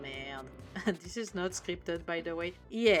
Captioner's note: laugh